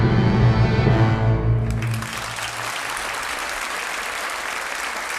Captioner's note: audience applauding